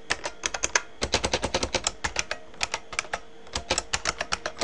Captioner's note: typing